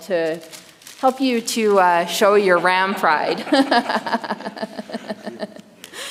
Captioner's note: laughs